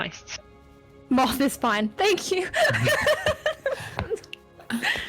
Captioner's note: laughs